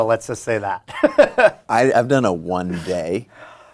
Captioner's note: laughs